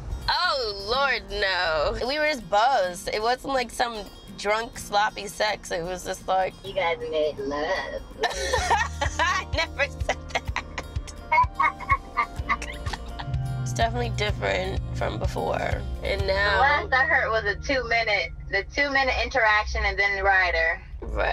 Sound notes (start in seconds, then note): 8.2 laughs